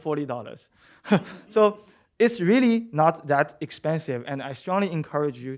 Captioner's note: laughter